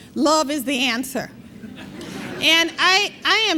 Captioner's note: laughter